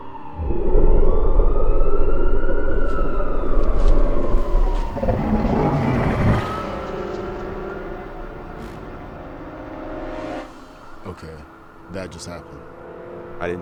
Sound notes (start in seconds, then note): 0.8 eerie loud growl; 4.6 Bigfoot growling